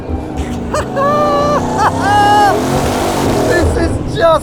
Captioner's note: laughs